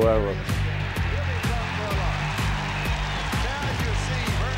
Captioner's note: crowd cheering